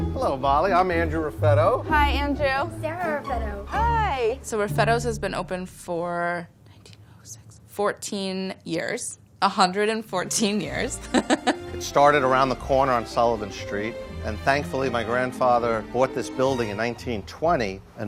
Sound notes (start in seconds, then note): 11.0 laughing